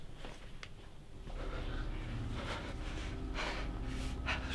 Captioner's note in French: Respirations Accélérées